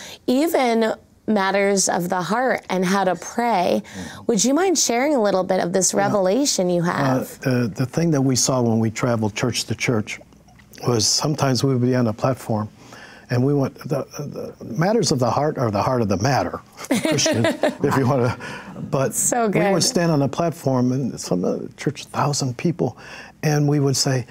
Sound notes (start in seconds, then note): 16.9 laughs